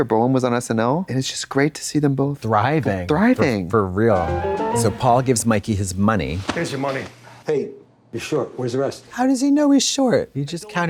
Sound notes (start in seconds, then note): 4.5 bright chime